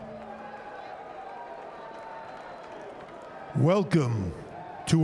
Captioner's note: crowd chatter